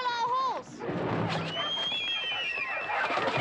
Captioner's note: whistles